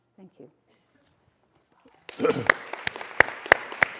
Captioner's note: applause